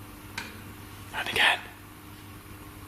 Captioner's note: soft banging